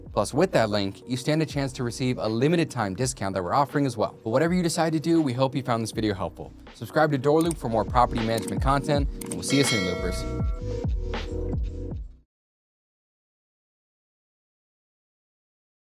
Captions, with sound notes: Plus, with that link, you stand a chance to receive a limited time discount that we're offering as well. But whatever you decide to do, we hope you found this video helpful. Subscribe to DoorLoop for more property management content (buttons clicking) and we'll see you soon, Loopers. (bell chiming)